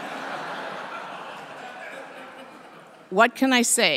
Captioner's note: laughter